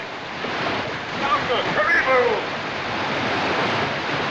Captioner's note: shouting In African Language